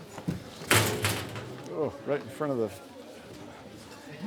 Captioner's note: door shutting